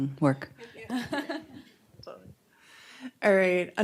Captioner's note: laughs